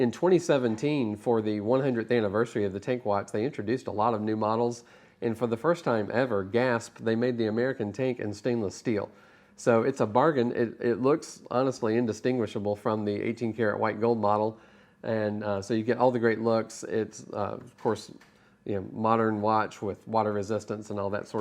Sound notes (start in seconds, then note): 6.5 gasp